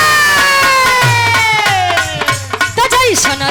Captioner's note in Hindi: चीखने की आवाज़